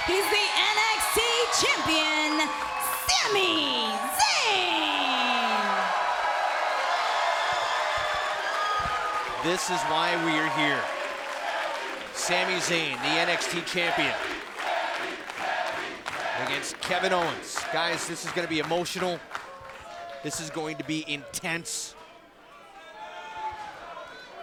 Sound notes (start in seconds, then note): 5.5 cheers & applause; 11.7 fans chanting